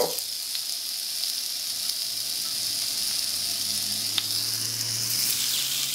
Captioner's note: sizzling